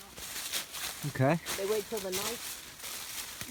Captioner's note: chatter